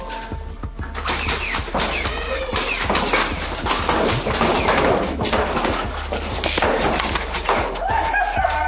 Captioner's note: motors revving and darts thunking from multiple blasters with indistinct talking; motors revving and lots of darts thunking from multiple blasters with footsteps; surprised laughter